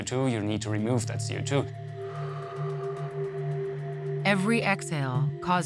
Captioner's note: person exhales